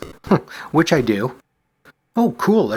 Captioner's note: chuckles